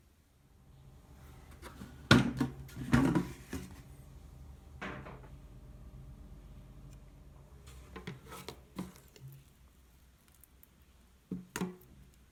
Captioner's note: folding